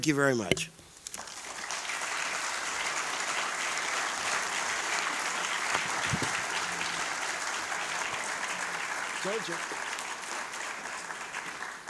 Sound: applause

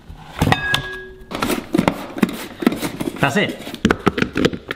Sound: potatoes thudding

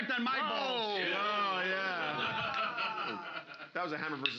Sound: audience groaning

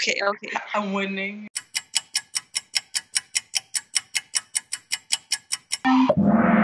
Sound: clock ticking; cymbal crashing

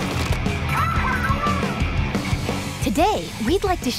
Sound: cheering in squid language

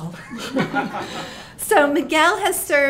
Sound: all laughing

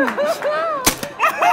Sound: bam

